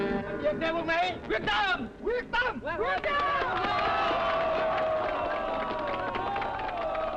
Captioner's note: cheering; speaking foreign language